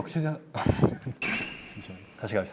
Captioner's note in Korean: 흐흡